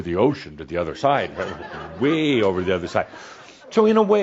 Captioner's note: some chuckles